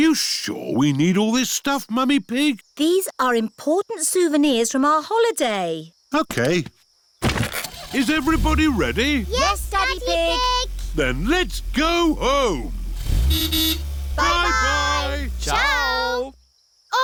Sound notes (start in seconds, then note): 13.6 horn toots